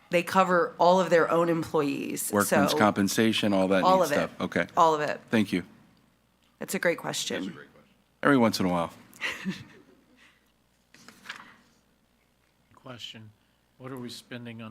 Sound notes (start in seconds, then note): 9.2 chuckles